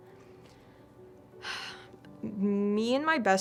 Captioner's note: sigh